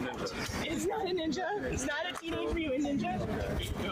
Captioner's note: laughing